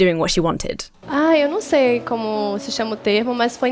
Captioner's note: speaking Portuguese